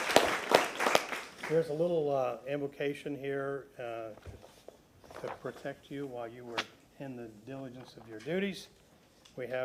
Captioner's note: applause